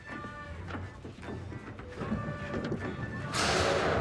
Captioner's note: objects rattling in closet